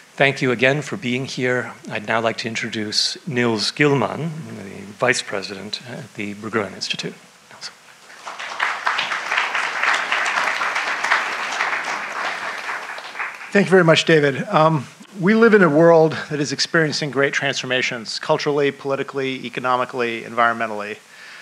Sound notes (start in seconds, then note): 8.0 audience claps